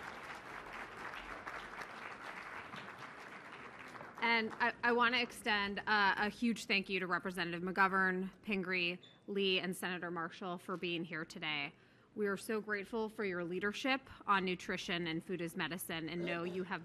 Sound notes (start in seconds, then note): 0.0 applause